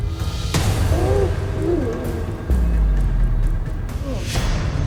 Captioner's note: fighting grunts